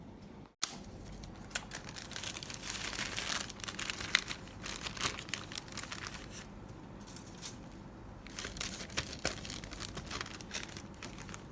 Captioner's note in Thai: เสียงใส่เครปเย็นในถุงเย็น